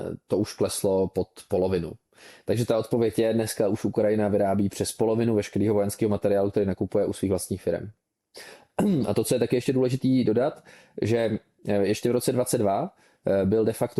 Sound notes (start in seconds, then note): 8.8 clears throat